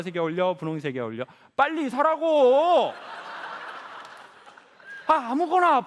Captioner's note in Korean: 관객 웃음